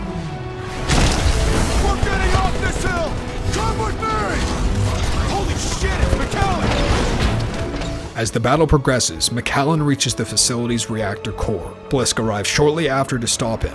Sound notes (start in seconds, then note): 0.6 explosion; 4.7 voiceover